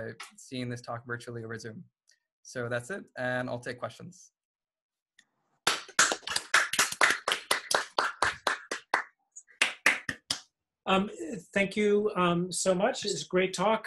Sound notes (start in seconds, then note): 5.6 clapping